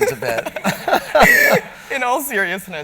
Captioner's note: laughter